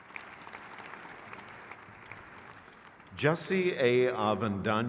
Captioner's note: crowd cheers